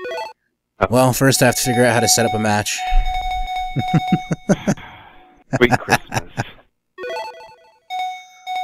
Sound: chuckles

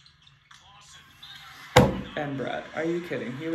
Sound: thumps

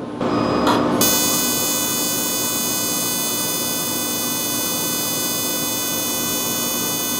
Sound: laser firing

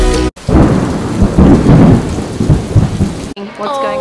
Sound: rain and thunder sounds

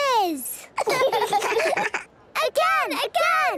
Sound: children laughing

